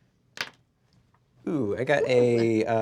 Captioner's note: rolls dice